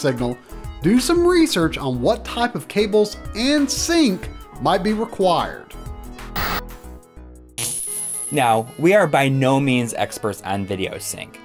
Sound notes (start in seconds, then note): 6.3 static